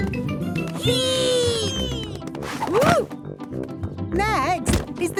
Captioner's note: thumps